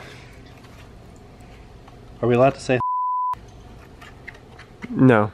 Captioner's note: beep